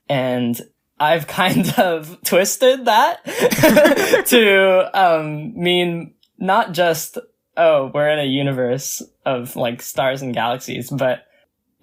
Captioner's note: both laugh